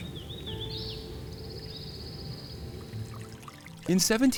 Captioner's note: birds chirping